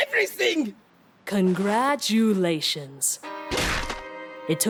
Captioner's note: Sarcastic